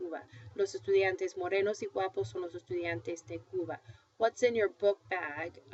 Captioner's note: foreign language